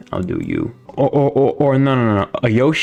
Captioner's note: seal Noises